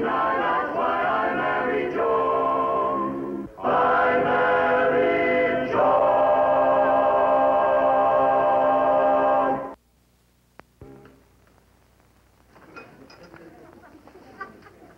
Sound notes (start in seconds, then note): 11.0 people talking